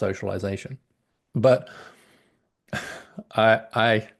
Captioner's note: laughs